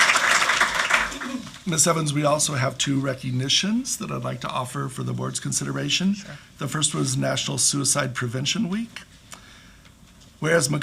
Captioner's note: clapping